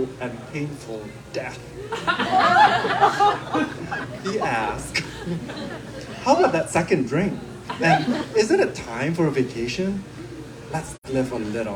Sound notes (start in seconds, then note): 10.0 laughter